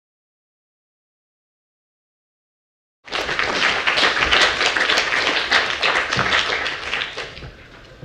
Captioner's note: applause